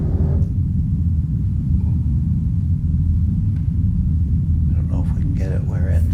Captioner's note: very low hum